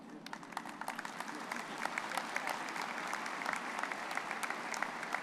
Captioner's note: audience applauding